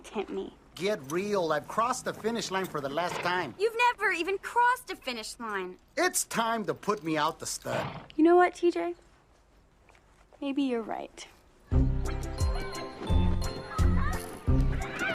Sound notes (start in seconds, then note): 11.3 children laughing